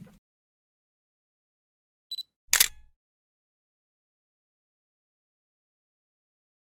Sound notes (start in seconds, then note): 2.5 camera clicking